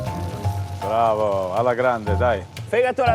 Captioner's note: Fala Italiano